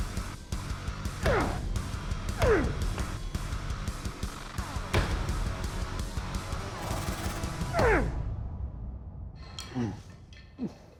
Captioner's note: grunting